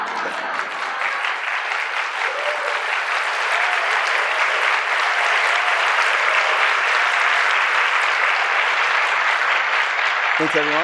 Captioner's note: laughter; applause